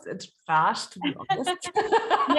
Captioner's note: laughing